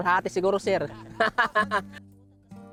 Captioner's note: laughs